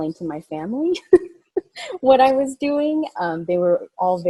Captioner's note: laughing